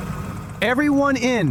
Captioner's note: SFX: RTV engine starts